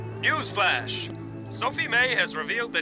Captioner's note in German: Seufzen